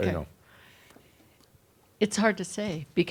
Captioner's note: whispers